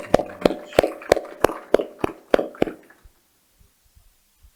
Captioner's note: applause